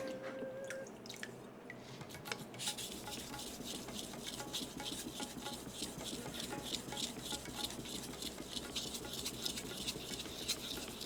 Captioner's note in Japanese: 刃先を研ぐ音